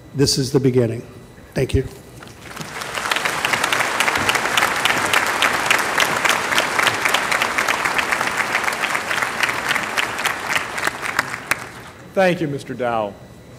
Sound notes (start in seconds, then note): 2.2 applause